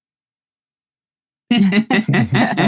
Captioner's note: laughing